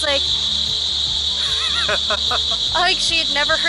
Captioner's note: laughing